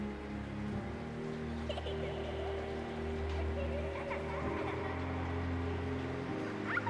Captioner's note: laughter